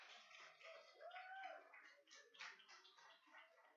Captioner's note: applauding